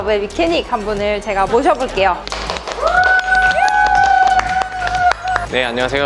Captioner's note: clapping